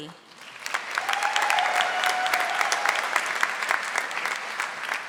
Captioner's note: audience applauding